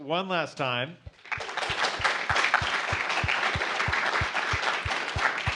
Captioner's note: applause